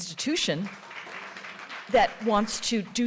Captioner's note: audience clapping